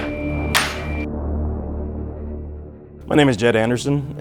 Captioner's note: metal clanks; ominous music